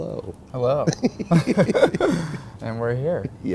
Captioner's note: both laugh